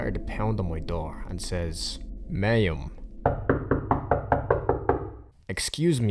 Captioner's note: knocking on door